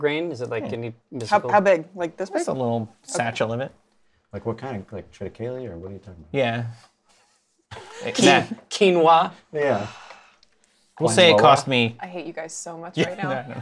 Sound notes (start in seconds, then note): 7.7 laughter; 9.6 sighs